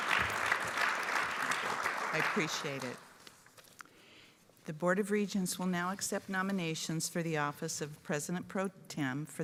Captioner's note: applause